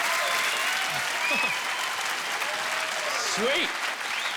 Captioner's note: laughing